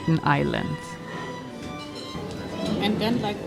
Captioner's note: people chattering